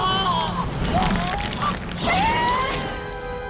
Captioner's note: screaming